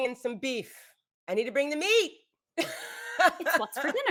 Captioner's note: laughs